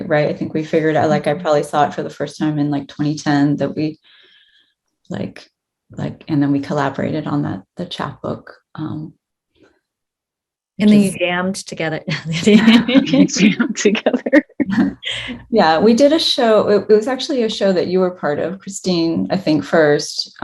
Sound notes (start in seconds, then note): 12.0 laughs; 14.0 both laughing